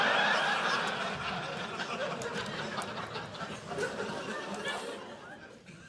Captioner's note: audience laughing